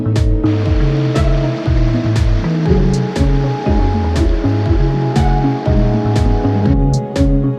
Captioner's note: river noise and music